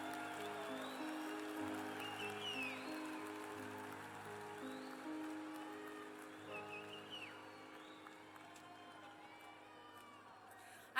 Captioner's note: cheers and applause